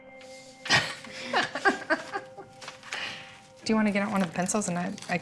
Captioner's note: laughing